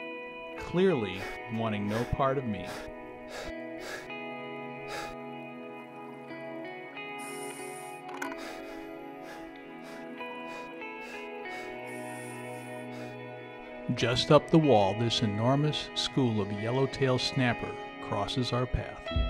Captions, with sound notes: Clearly wanting no part of me. [sound of ray slapping the sand] Just up the wall, this enormous school of yellowtail snapper crosses our path.